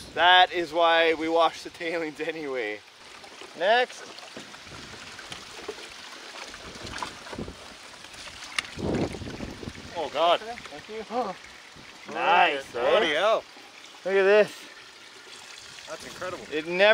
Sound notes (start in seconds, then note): 4.8 water splashes; 8.7 wind howling